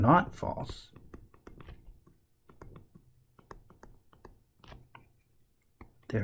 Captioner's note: tapping Sounds